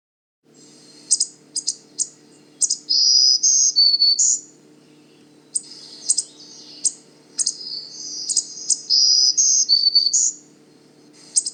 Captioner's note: black-throated Green warbler chipping and singing